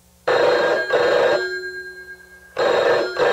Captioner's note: phone rings